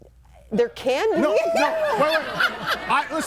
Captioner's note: laughs; everybody laughing